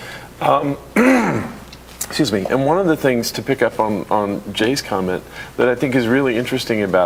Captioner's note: cough